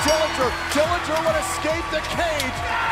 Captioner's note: bell ringing